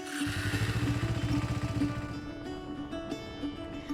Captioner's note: bike revving; tranquil music